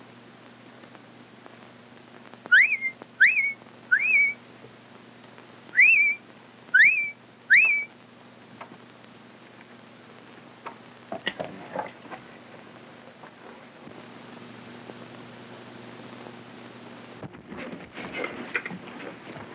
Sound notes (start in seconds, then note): 3.9 Jack whistling; 11.5 horse snorts